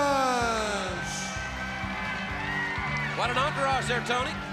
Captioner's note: crowd cheering